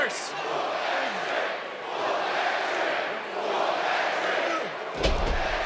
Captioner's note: crowd chants "Whoop that Trick"